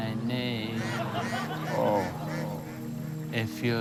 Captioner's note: ducks quack